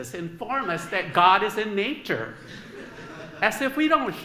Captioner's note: laughter